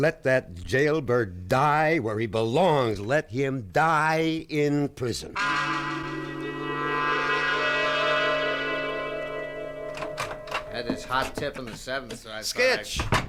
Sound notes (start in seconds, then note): 5.3 dramatic music playing; 9.3 door opens